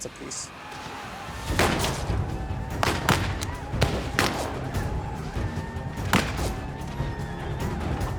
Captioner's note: gunfire